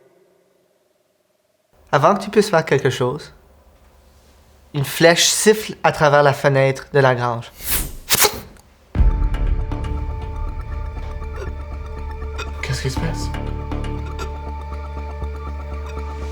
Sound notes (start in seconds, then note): 8.1 vocalizes skewering; 13.9 croaking